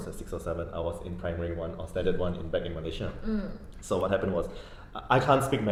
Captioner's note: none